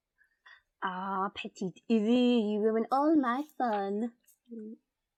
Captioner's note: French accent